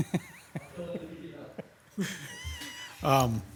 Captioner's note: chuckles